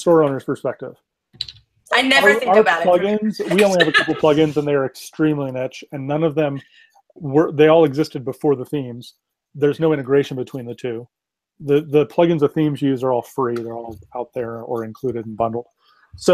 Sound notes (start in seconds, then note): 2.2 laughs